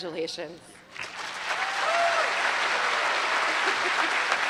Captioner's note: applause